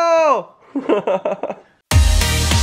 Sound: laughs; lighthearted music

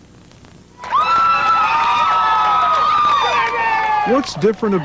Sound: crowd cheering

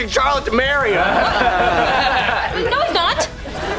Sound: laughing

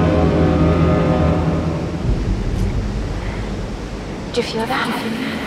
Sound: cruise boat honks

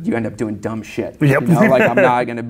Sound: laughs

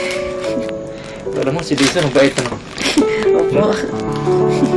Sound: giggles

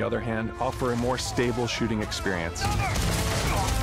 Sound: enemy groaning

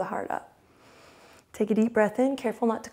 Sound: inhales

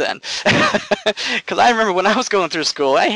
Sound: laughing

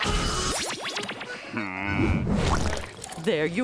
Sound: laughing; groaning

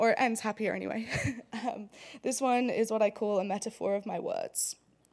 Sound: laugh

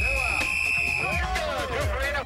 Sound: whistle blows

